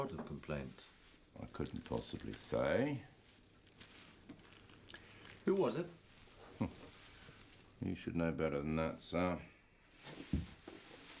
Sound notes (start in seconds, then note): none